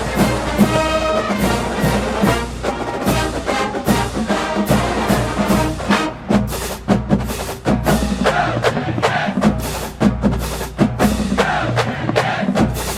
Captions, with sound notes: - [Crowd] Go Jackets! Go Jackets!